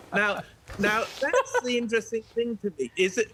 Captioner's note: laughter